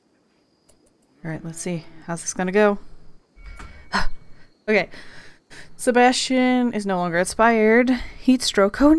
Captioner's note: happy breath